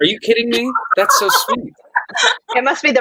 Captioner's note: laughing